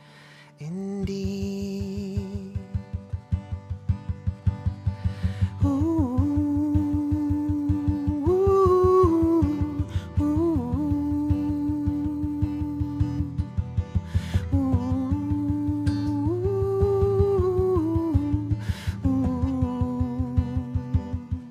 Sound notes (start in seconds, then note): 5.6 humming